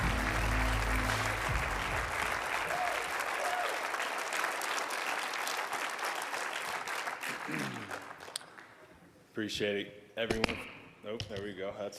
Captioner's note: applause